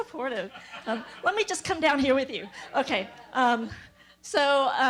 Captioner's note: laugh